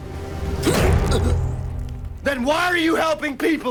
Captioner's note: person grunts